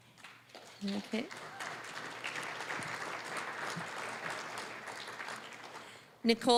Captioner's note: applause